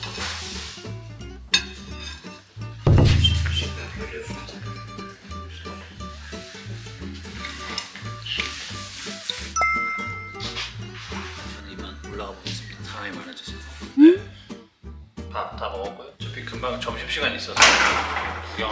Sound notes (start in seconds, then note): 7.3 slurp